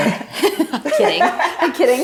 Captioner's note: both chuckling